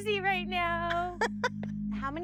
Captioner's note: laughs